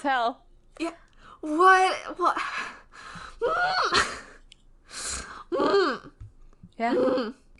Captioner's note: screams